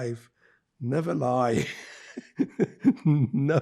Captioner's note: laughing